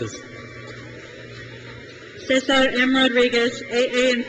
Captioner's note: crowd cheers